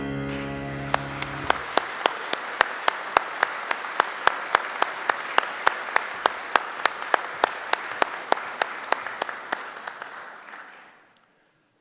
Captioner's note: applause